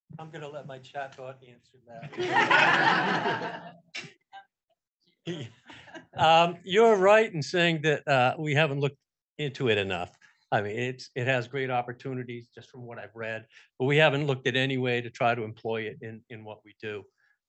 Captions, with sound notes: - I'm gonna let my chat bot answer that. (audience laughing) You are right in saying that we haven't looked into it enough. I mean, it has great opportunities just from what I've read, But we haven't looked at any way to try to employ it in what we do.